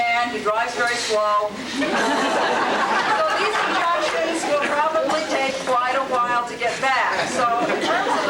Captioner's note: audience laughs